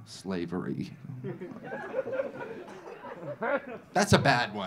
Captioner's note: audience laughing